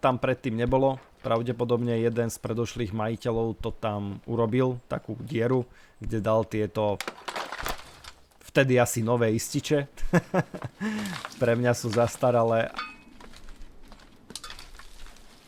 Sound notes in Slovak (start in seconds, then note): 10.0 smiech